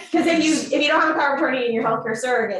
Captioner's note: and audience laughs